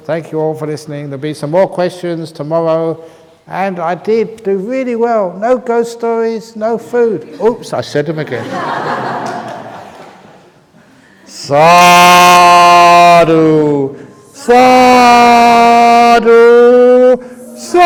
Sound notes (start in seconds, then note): 8.2 laughter; 15.8 chuckles